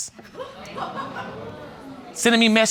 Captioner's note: audience exclaims and laughs